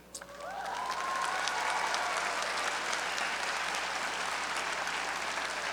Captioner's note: audience cheering and applauding